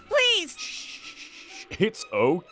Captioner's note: shushing